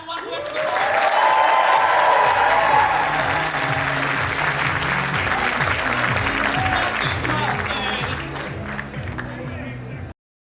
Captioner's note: audience cheering and applause; upbeat music